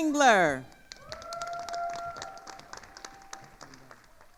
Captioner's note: attendees applauding